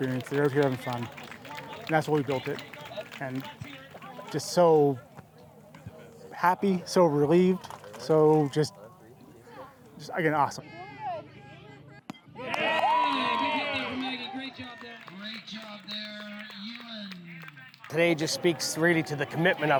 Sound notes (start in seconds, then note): 11.6 baseball hit; 12.3 cheers